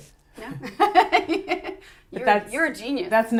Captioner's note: laughs